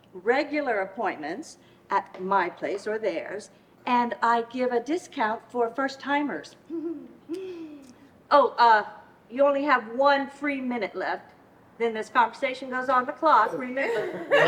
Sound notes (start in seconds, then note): 6.6 giggles